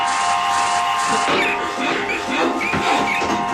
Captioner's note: plunger clangs; rat squeaking